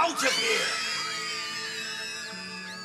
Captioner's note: children screaming